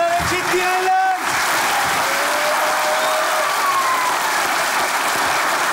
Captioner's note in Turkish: Alkış sesleri